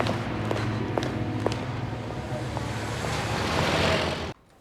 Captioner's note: city commotion